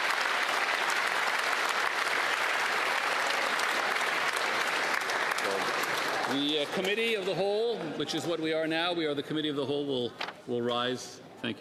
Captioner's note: applause